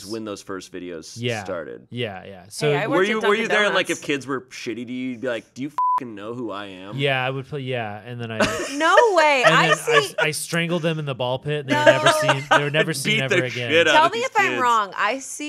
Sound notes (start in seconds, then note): 5.8 beep; 7.6 laughing